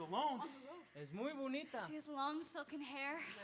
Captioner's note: speaking Spanish